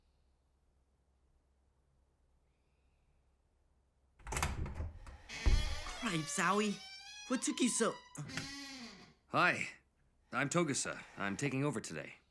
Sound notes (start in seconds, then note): 4.2 door creaking open